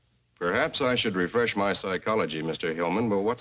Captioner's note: none